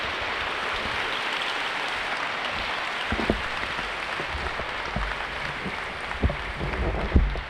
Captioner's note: clapping